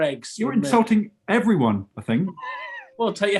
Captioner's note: sniggering